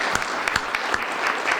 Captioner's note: applause